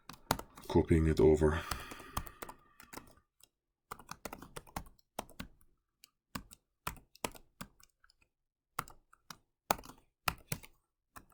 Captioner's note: typing